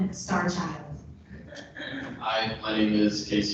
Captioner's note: people laughing